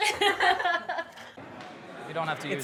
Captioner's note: woman chuckling